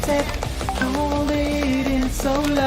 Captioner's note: Whatsapp notification